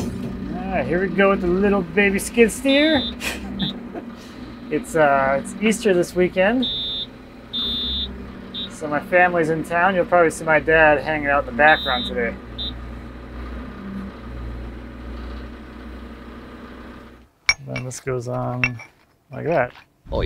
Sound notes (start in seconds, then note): 13.4 engine rumbling; 17.4 metal clinking